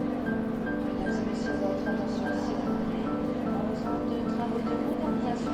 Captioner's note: indistinct chatter on airport PA